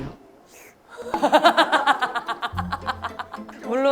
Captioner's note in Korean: 본인도 어이없어서 웃음